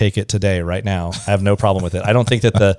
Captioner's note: laughs